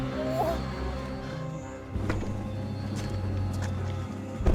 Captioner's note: whimpers; Rachel groans